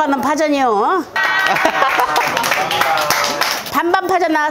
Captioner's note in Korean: 환호